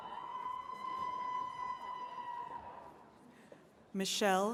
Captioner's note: attendees cheering